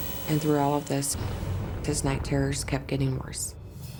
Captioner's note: static blips